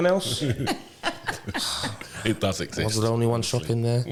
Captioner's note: laughter